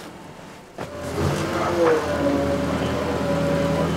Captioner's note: noise of forklift trucks